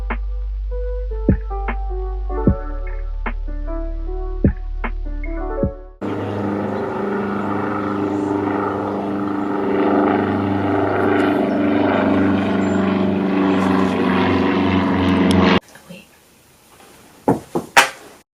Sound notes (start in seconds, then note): 0.0 outro music plays; 6.0 absurdly loud plane noises; 17.3 Airpod hits ground